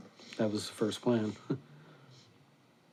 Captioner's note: chuckles